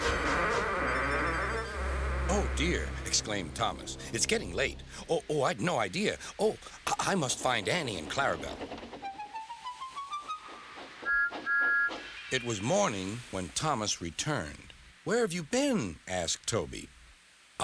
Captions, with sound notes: "OH, DEAR," EXCLAIMED THOMAS, "IT'S GETTING LATE. OH, I HAD NO IDEA. OH, I-I MUST FIND ANNIE AND CLARABEL." ( whistles ) IT WAS MORNING WHEN THOMAS RETURNED. "WHERE HAVE YOU BEEN?" ASKED TOBY.